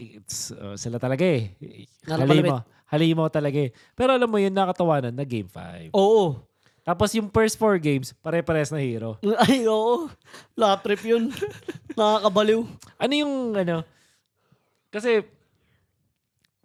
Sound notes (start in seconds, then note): 10.6 laughs